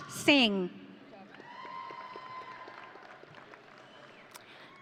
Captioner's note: audience cheering